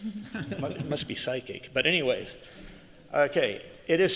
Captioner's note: laughter